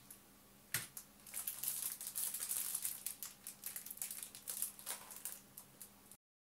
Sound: rustling

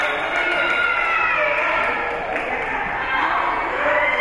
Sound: whistle being blown; spectators cheering

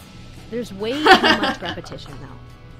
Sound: laughs

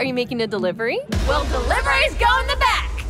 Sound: dramatic thump

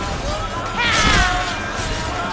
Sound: screams

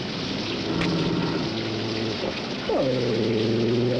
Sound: dogs growling

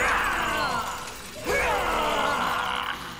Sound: grunting

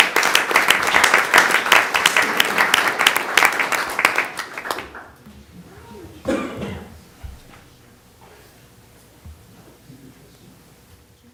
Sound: applause

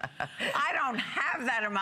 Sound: laughter

